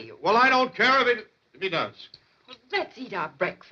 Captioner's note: quietly